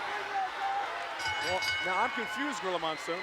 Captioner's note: bell ringing